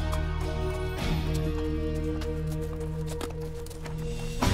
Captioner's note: hooves clomping